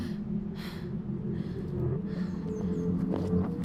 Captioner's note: gasping